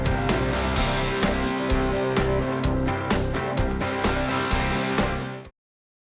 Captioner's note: horn sound; applause